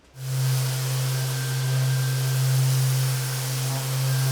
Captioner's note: machinery whirs